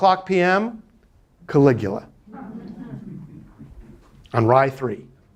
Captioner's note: students laughing